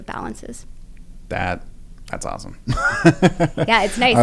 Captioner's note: laugh